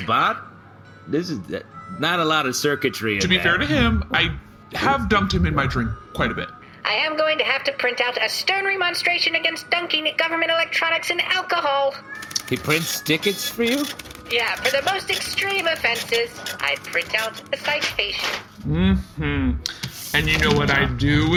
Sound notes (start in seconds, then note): 6.7 primly